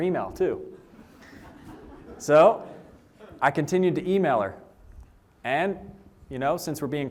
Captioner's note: laughter